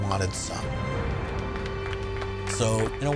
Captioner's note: employees clapping